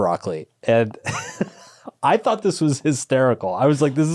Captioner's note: chuckles